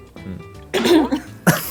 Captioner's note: tactical throat-clearing